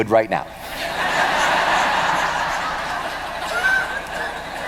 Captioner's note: laughter